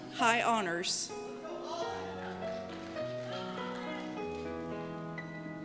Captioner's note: shouts